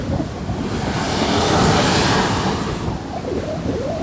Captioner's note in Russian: шум волны